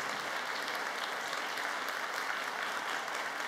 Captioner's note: cheers and applause